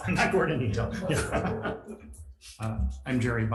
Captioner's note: both laugh